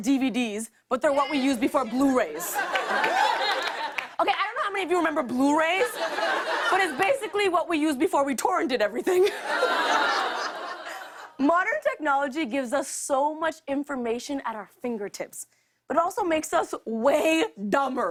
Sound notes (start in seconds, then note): 2.0 laughter; 9.2 laughter